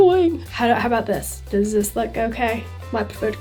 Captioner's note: british accent